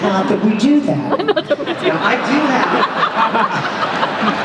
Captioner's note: laughter